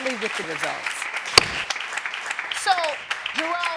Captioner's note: gavel bangs